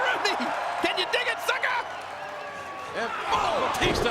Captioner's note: crowd cheering